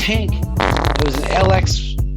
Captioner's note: more farting noises